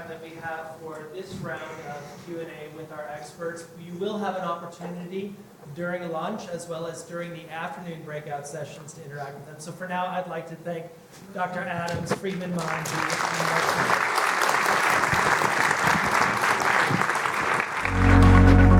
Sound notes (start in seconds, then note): 12.5 audience applauding